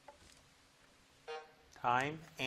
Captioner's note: timer buzzes